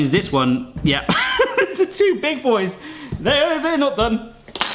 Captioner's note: laughs